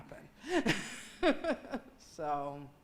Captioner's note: laughing